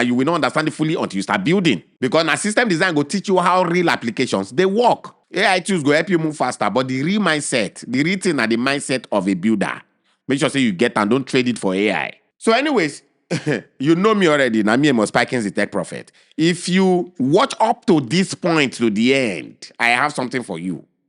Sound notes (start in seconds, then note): 13.3 chuckles